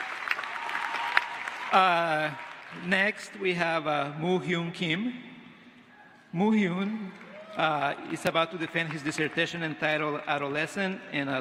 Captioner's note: applause